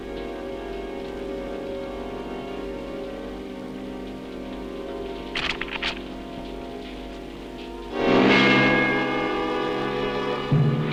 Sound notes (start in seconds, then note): 5.3 gun clicks; 7.3 dramatic music